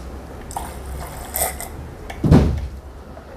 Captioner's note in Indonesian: suara cairan